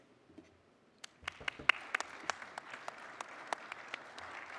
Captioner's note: applause